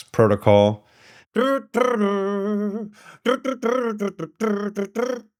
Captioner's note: humming